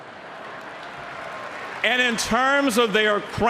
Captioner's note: applause